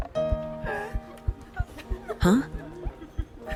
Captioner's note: patients laugh in background